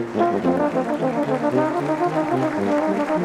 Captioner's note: applauding